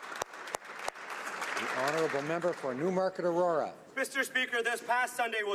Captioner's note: applause